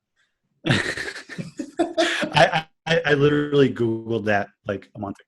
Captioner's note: laughing